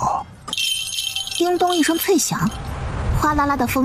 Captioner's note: ding-dong